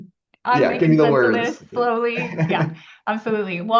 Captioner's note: laughs